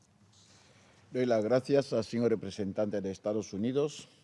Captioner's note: in Spanish